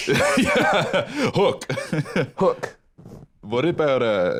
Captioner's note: laughs